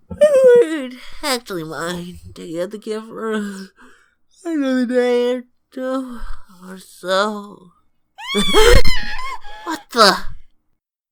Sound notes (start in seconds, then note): 8.2 screams; 8.2 gasps